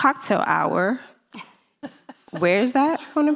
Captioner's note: laughing